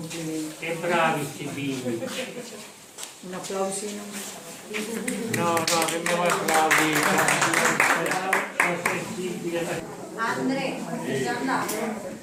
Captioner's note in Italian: Applauso